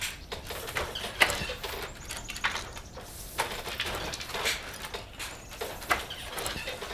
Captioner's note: regular clicking sounds of a loom